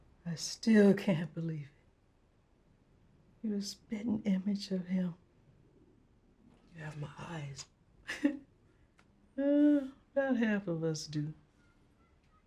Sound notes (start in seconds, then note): 8.0 chuckles